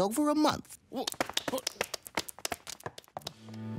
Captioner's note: applause